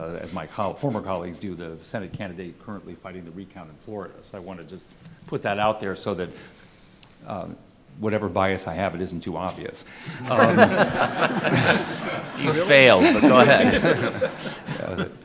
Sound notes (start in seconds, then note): 10.0 laughing